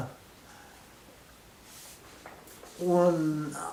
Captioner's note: silence